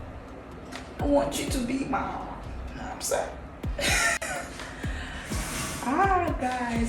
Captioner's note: laughs